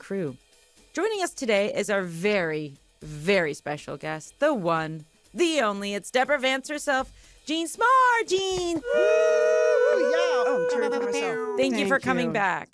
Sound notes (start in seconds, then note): 8.8 all cheer